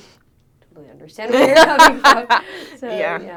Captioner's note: laughs